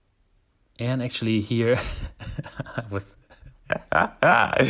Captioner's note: laughs